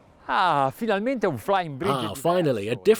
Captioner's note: speaking in foreign language